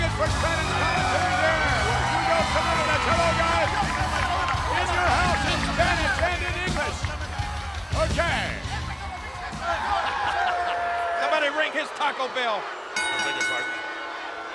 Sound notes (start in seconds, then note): 6.5 speaking Spanish; 12.9 bell rings